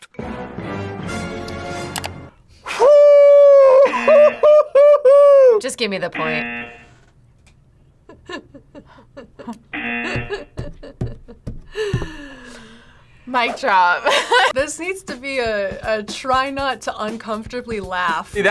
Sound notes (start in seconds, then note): 0.1 tense music; 3.6 laughs; 6.1 buzzer rings; 8.0 both laugh; 13.3 laughs